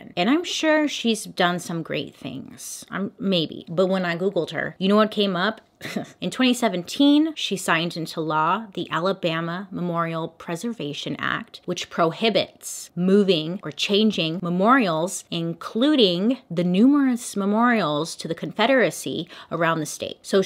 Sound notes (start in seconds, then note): 5.8 chuckle